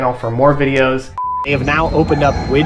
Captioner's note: beep